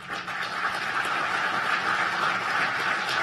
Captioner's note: applause